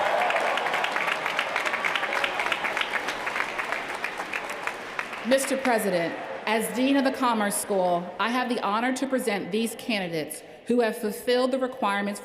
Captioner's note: cheers & applause